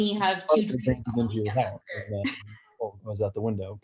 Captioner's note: chattering